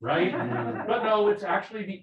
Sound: people laughing

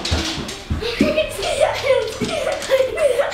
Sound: laughs

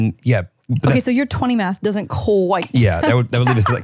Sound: laughs

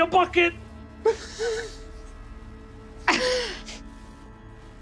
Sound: everyone giggling

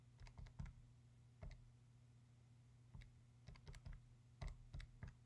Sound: calculator clattering

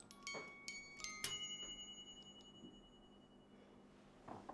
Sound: oven timer goes off

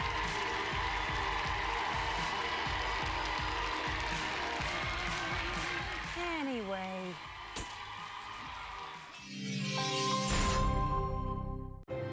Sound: cheers and applause

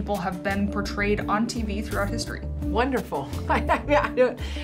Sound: laughs

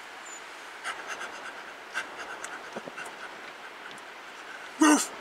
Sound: panting

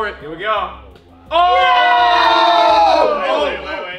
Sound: cheering

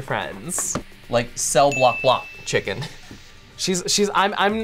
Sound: bell dinging

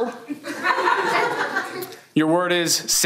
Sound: everyone laughs

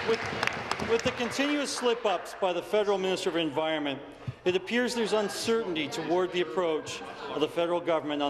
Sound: applause

